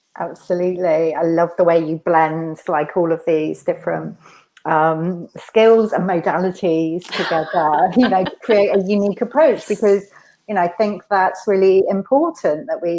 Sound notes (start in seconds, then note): 7.1 laughs